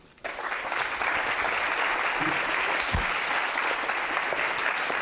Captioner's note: audience applauding